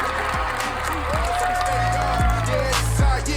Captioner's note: cheering